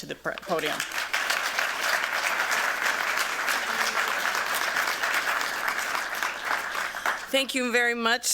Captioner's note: applause